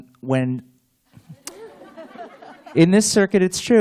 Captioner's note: laughter